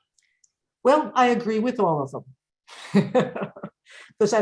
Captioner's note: chuckles